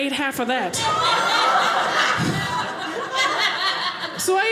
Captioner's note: audience laughing